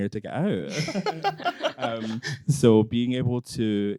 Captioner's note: both laughing